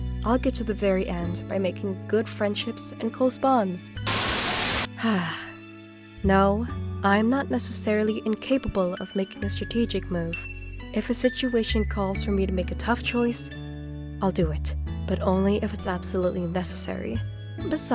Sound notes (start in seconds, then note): 4.0 Static; 5.0 sigh